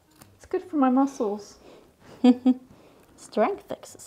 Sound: laughing

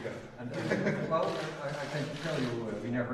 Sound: laughter

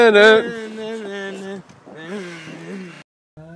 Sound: jakurai mumbling

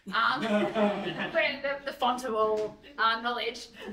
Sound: laughter

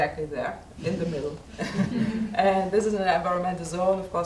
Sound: audience member laughs

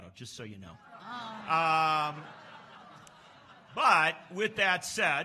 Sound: laughs

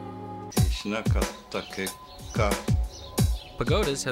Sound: speaking japanese

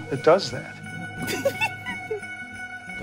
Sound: laugh

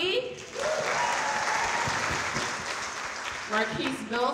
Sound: audience cheering

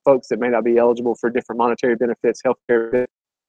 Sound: audio warping

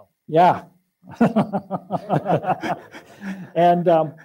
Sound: laughing

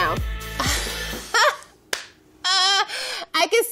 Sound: woman laughs

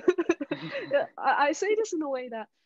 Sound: all laughing

